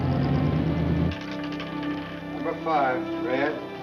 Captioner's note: car rumbling; door clicking; ball clattering